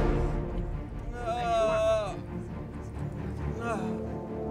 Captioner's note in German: Soldat stöhnt